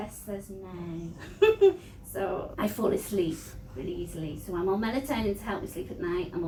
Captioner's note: laughs